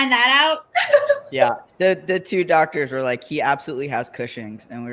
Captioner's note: laughs